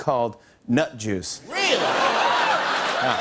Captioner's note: laughter and applause